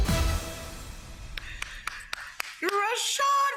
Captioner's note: woman claps